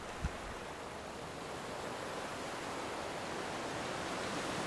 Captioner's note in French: Bruit de la mer